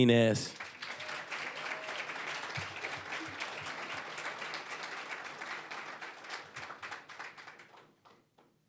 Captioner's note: applause